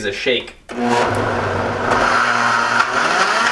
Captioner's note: whirring